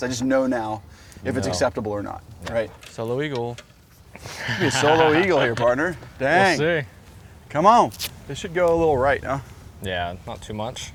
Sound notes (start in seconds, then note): 4.2 laughing